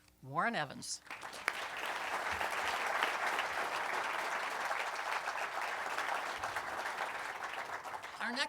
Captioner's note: applause